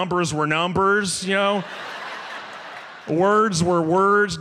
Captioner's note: audience laughs